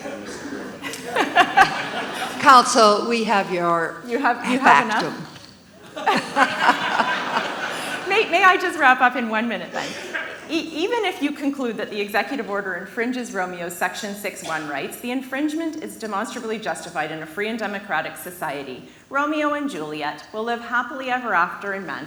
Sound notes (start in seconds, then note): 5.7 laughs